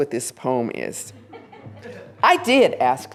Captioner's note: laughter